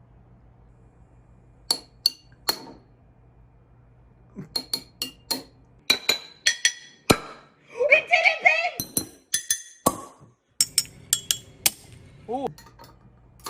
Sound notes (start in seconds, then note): 7.3 gasps